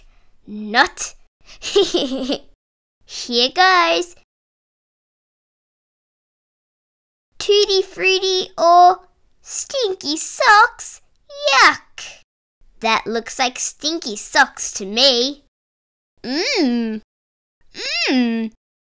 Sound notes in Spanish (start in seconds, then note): 1.6 Risas